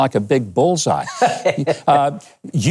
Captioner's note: laughing